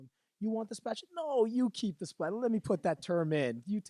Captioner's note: laughing